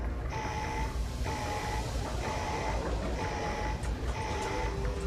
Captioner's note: hissing; beeping and whirring